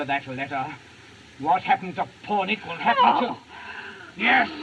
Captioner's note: moans